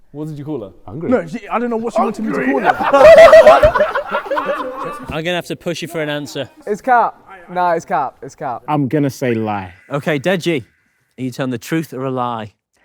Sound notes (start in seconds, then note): 1.9 group laughs